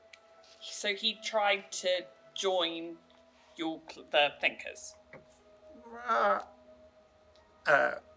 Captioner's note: whimpers